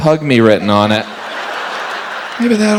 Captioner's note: audience laughs